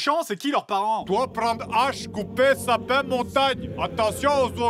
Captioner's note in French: accent russe